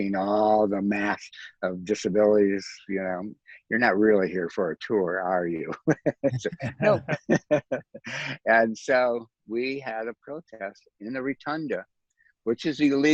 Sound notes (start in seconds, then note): 5.5 laughs